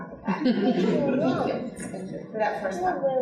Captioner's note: audience laughing